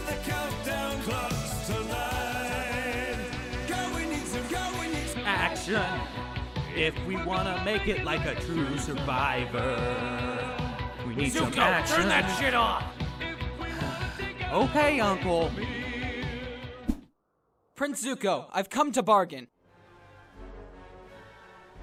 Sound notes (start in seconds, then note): 13.7 sighs